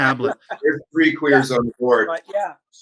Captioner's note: laughter